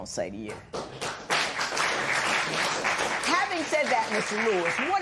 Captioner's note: applause